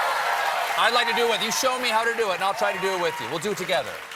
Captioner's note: cheers and applause